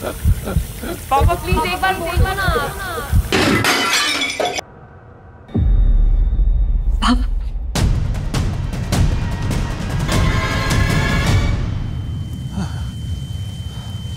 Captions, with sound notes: 'Dad, please tell me!' [metal clanks] Dad! [tense music plays] [gasps]